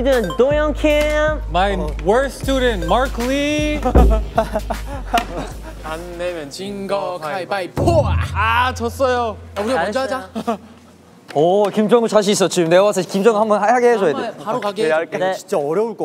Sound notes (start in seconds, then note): 3.9 trudging